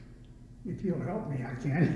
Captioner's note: laughs